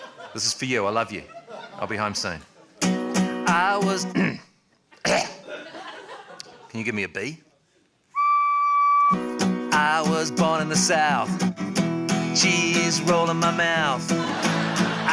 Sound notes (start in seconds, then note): 0.0 laughter; 5.0 clears throat, coughs; 8.1 blows on recorder; 14.1 laughter